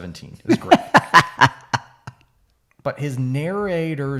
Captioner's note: laughing